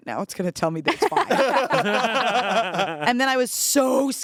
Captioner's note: everyone laughs